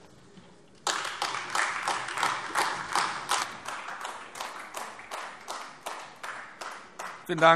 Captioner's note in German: Beifall AfD